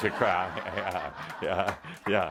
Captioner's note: laughter